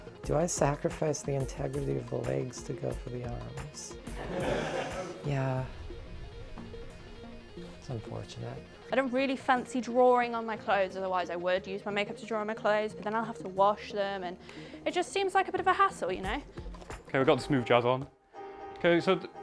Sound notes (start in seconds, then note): 4.1 laughter